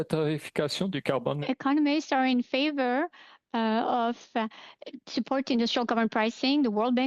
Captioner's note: speaking French